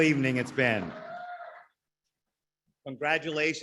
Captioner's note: audience applaudes